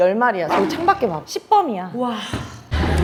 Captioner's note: growl